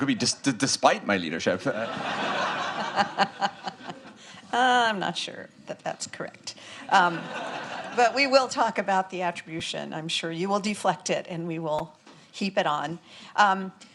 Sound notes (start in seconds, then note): 1.6 audience laughing